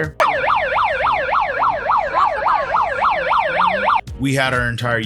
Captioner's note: police Siren